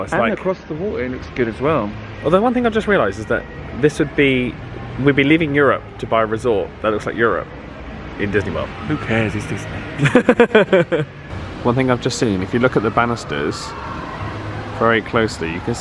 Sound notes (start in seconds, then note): 9.9 laughing